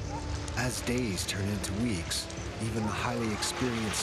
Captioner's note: voiceover